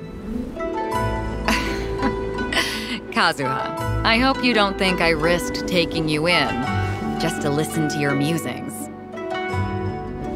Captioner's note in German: Lacht auf